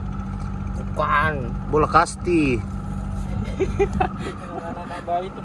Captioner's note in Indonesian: tertawa